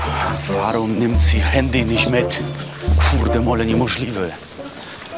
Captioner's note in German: Er flucht polnisch